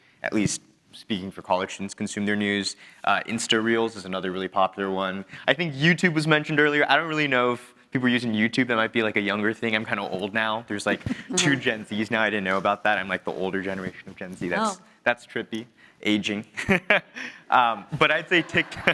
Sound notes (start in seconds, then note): 17.9 chuckles